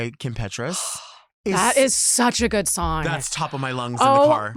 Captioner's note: gasps